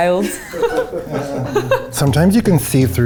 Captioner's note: laughs in background